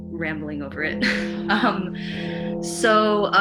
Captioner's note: giggles